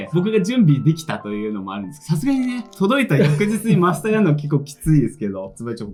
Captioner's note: laughs